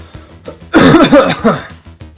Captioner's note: coughing